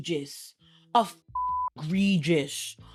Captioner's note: beep